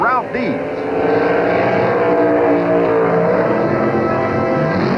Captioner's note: engines roaring